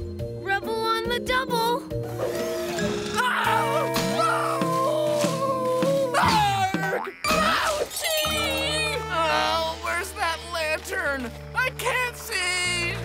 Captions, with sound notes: Rubble on the double! [screaming] [screaming] Ouchie! Ugh, where's that lantern? I can't see!